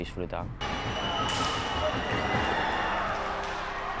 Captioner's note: crowd roaring and final horn